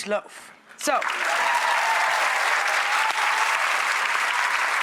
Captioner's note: audience applauds